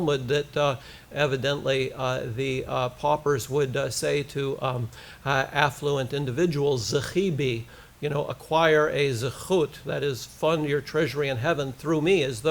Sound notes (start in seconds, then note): 6.6 foreign language